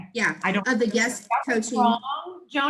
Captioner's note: murmurs